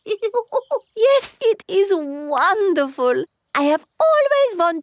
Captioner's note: laughs